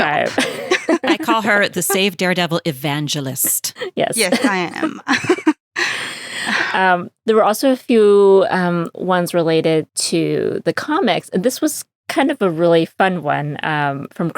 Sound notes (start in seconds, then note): 4.2 laughter